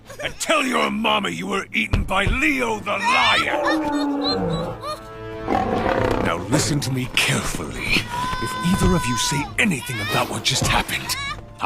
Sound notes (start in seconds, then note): 3.4 lion’s roar; 7.9 “cubs” sobbing